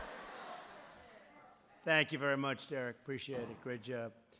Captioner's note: laughter